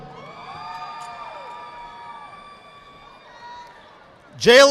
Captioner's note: audience applauding